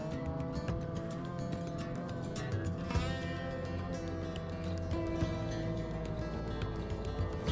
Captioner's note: revving continues